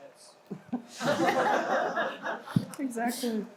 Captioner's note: audience laughs